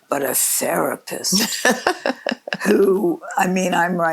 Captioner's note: laughs